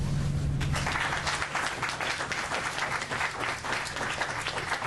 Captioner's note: applause